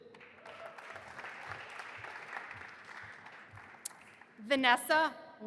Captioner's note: audience applauding